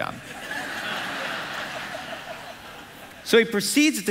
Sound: congregation laughing

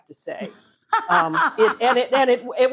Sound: Rachael laughing

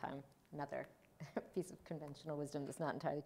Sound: chuckles

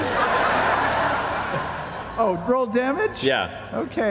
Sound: laughter

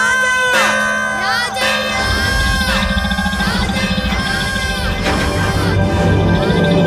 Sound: bell Ring

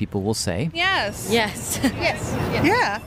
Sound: laughs

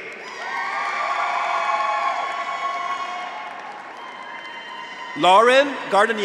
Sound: audience applauds; graduates cheer

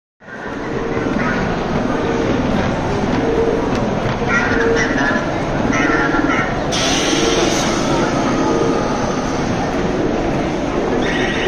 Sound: probe droid beeps and warbles

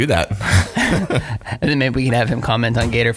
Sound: laughing

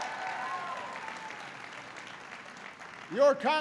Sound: applause

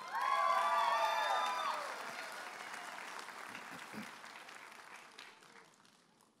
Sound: audience applauding and cheering

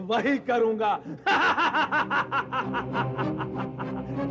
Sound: laughs

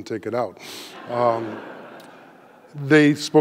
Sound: audience laughing

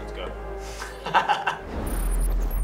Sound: laughs; uptempo ambient music

